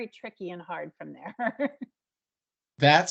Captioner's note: laughing